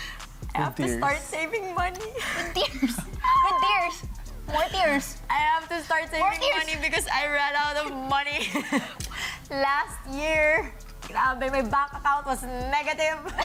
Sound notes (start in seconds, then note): 7.8 giggles